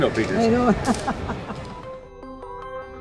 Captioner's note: laugh